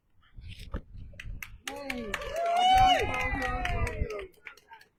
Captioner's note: cheers and applause